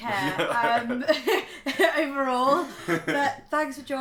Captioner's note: laughs